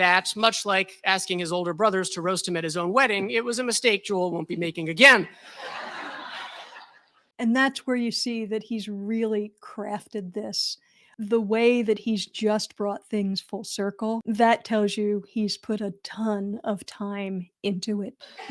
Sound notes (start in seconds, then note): 5.4 laughter